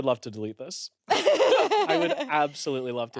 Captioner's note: everyone laughs